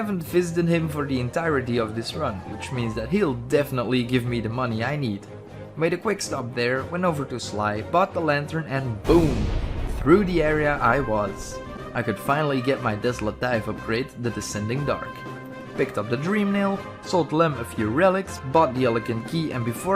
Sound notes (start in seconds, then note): 9.0 boom